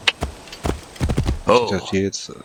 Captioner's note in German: räuspern